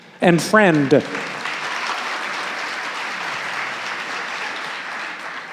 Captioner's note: audience applauding